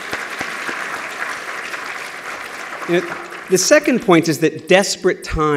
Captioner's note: applause